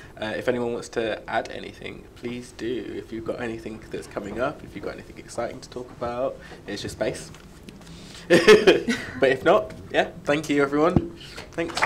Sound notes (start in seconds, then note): 8.2 laughs